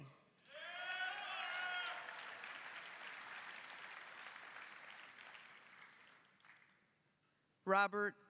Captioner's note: applause, cheering